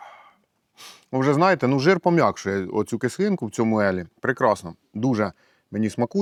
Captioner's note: sigh